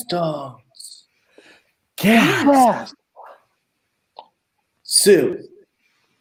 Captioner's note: TUCKER, REX, EMMA gasp